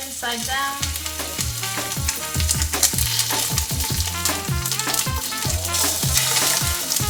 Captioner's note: chicken sizzles; funky jazz music